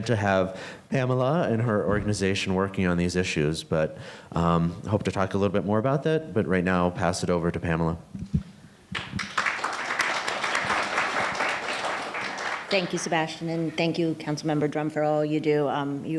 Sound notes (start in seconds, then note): 8.9 audience applauding